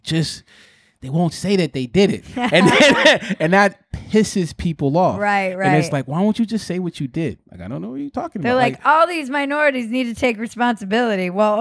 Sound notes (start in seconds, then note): 2.2 laughing